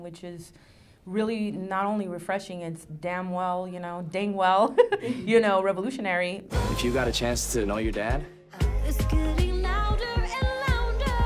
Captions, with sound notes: We don't have that storyline which is not only refreshing, it's damn well, dang well (laughs) you know, revolutionary. - If you got a chance to know your Dad (pop music)